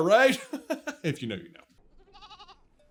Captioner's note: laughs